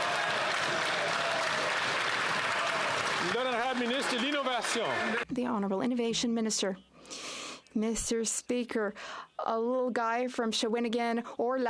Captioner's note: some Applause